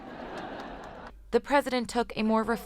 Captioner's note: laughter